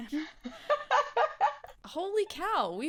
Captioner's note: laughs